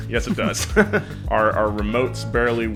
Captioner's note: laughs